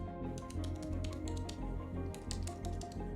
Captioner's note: typing